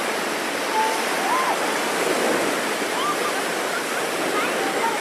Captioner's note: children murmuring